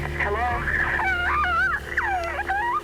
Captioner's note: sobbing